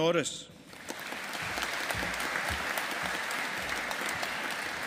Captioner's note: audience applauding